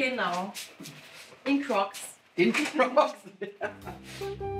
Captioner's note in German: lachend